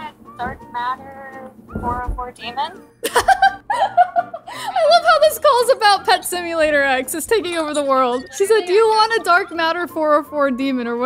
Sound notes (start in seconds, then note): 3.0 laughing